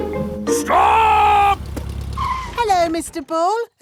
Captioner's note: brakes squeal